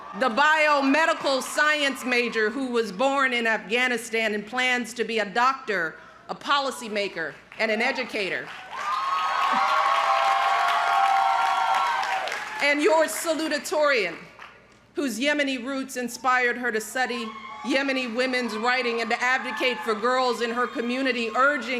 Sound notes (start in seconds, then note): 8.4 crowd cheering